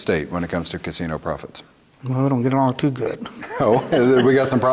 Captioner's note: laughs